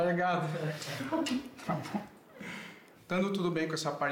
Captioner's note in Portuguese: risos